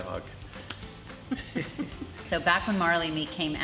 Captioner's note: laughs